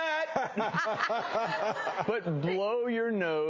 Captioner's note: all laugh